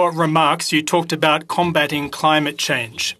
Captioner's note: speaking French